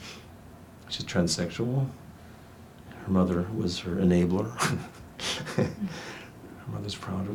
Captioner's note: laughs